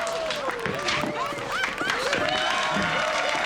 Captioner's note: laughter and applause